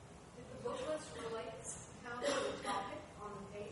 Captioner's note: person coughing